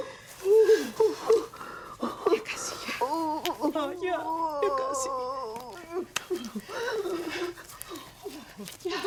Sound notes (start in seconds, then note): 1.4 moaning